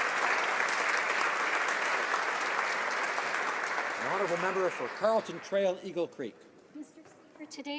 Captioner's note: some Applause